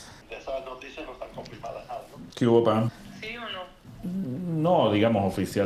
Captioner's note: on phone; on phone